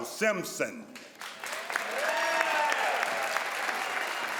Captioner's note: crowd applauds